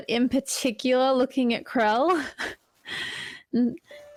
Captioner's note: soft laugh